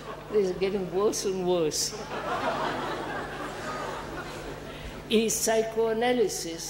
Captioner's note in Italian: risate